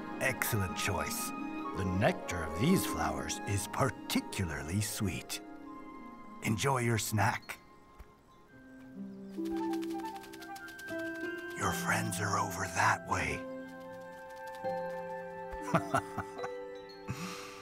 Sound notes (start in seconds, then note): 9.4 fluttering sounds; 15.6 laughs